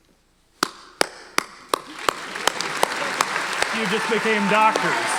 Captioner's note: audience applauding